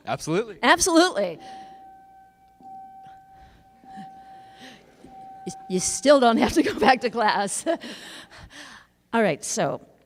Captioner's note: sound of school bell ringing